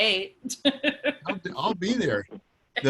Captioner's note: laughs